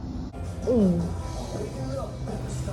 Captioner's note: Jones gulps